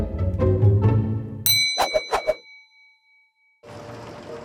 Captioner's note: bell ding